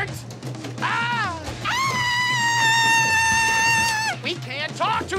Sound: screaming

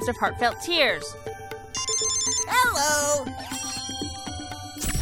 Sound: ring

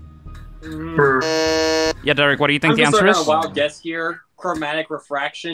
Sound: buzzes

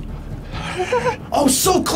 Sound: laughs

